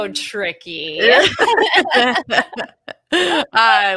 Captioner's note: all laughing